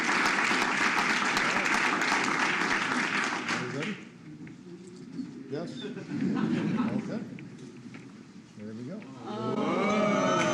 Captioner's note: cheers and applause